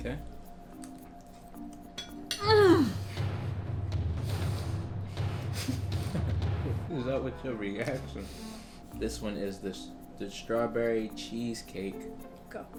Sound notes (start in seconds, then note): 1.9 dramatic music; 2.3 groans